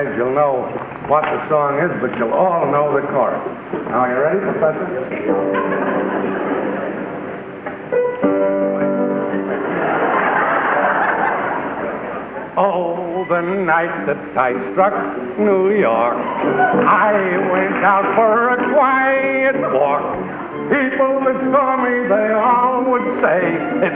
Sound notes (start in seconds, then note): 8.7 piano; 9.3 laughter